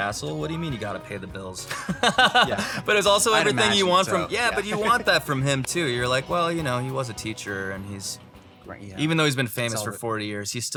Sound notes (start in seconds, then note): 1.7 laughs